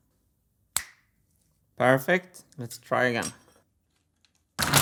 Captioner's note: magical finger snap